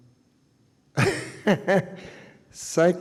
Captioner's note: chuckles